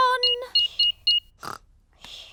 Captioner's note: beeping